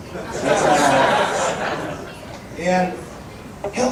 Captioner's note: audience laughing